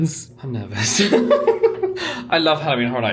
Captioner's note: laughs